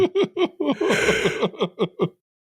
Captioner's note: laughing; big yawn